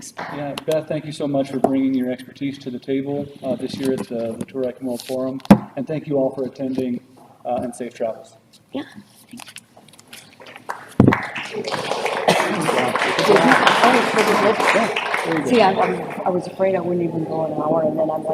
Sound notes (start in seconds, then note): 10.4 applause